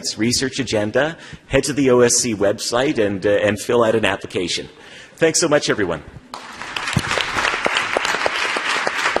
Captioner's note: applause